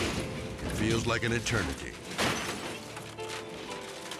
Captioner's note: car crashing; car imploding